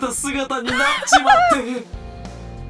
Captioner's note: laughs